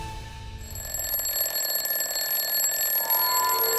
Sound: alarm ringing

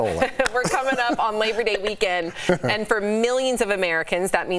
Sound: laughter

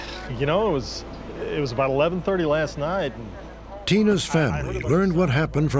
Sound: none

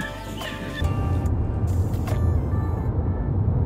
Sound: road noise

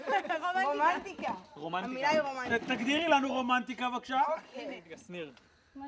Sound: family speak foreign language

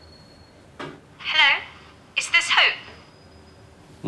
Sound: female voice on phone speaker

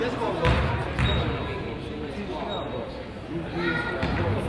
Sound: crowd chatters

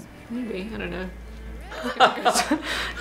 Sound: laughs; laughter

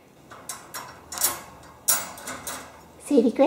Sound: cage opening

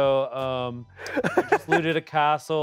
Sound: laughs

